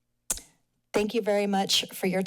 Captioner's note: tongue clicks